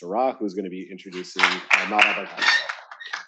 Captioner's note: attendees applauding; speaks quieter